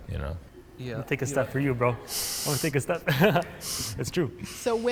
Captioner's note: laughs